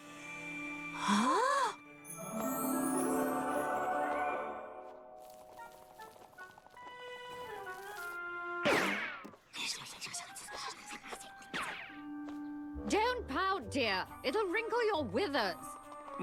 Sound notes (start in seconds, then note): 0.8 both gasp